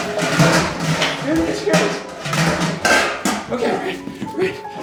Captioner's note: objects clattering